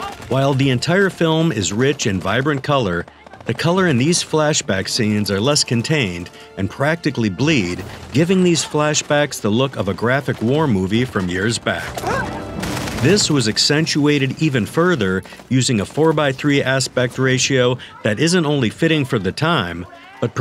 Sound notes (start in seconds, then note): 12.0 soldier grunts